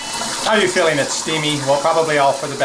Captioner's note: water patters